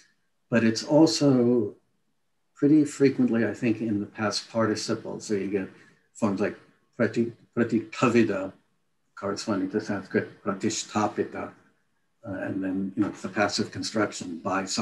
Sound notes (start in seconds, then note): 7.2 non-english speech; 10.9 non-english speech